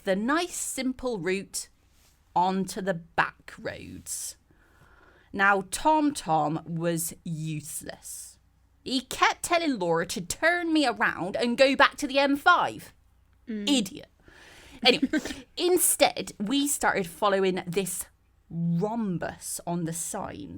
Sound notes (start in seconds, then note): 14.8 laughs